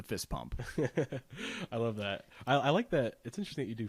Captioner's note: laughs